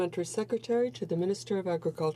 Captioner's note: speaking French